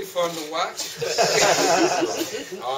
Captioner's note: laughter